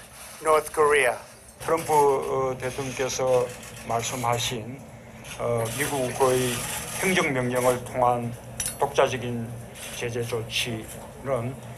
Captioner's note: Korean